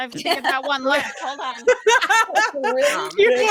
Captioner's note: group laughing